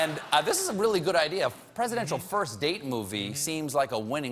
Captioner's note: laughter